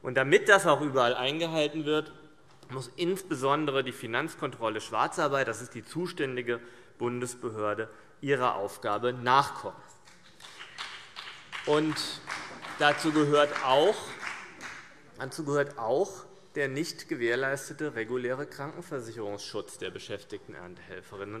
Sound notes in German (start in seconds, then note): 10.0 Beifall BÜNDNIS 90/DIE GRÜNEN